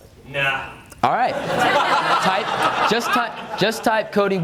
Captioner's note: audience laughs